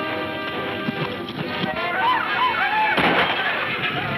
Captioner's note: men shouting